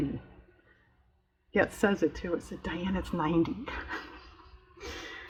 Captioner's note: laughs